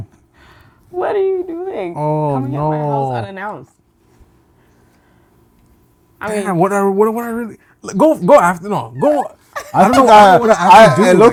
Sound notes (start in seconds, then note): 7.1 stuttering